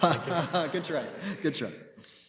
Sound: laughing

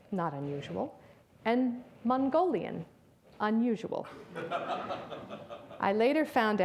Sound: audience laughs

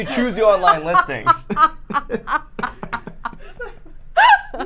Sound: laughs

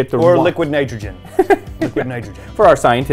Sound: laughs

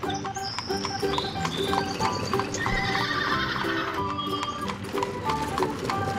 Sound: horse whinnies

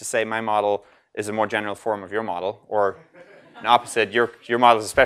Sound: laugh

